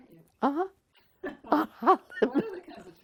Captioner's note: laughs